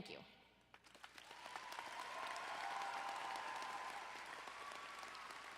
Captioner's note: audience applauding and cheering